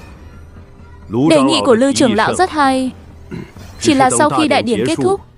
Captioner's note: clears throat